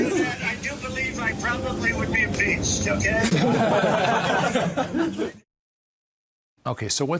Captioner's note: laughter